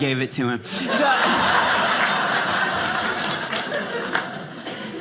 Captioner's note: audience laughing